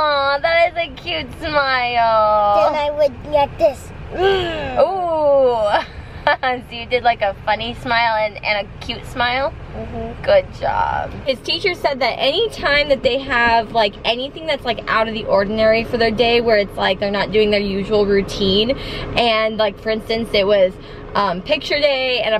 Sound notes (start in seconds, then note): 4.5 grunting; 5.8 laughing